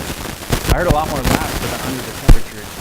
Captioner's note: static